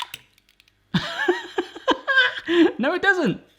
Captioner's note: laughing